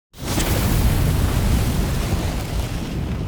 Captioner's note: roaring fire